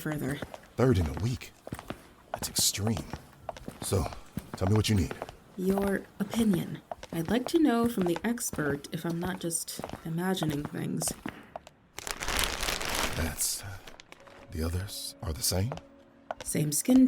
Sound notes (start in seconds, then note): 12.0 tarp rustles